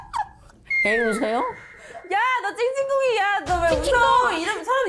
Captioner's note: confused sound effect